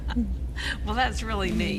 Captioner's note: laughter